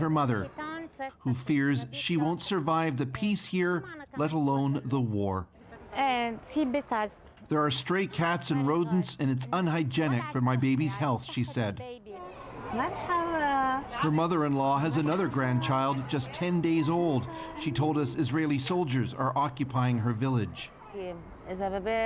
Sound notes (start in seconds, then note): 10.8 speaking Alternate Language